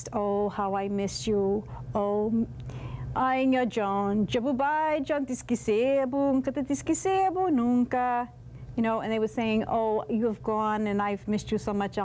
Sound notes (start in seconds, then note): 3.2 non-english speech